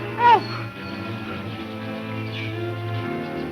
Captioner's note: panting